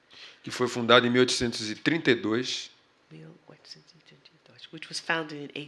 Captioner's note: speaking portuguese